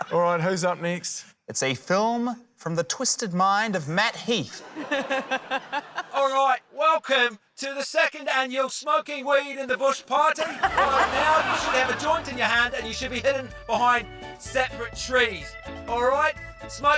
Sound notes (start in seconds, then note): 0.0 laughter; 4.5 laughter; 10.3 laughter